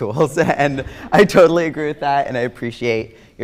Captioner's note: everyone laughs